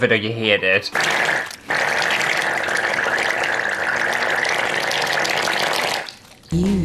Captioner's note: vomiting Sounds